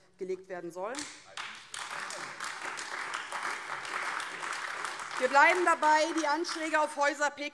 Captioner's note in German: Beifall AfD